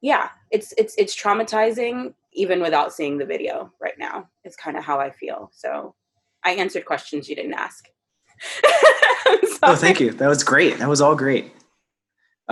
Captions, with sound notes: yeah, it's traumatizing even without seeing the video right now. It's kinda how I feel, so I answered questions you didn't ask. (laughs) I'm sorry. - Thank you, that was great, that was all great.